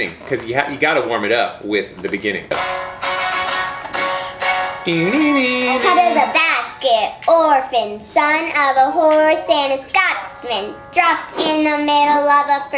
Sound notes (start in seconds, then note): 4.8 hums